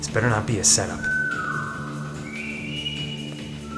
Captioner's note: whistling